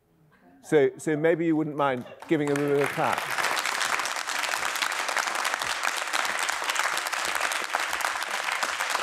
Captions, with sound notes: So maybe you wouldn't mind giving them a bit of a clap. (applause)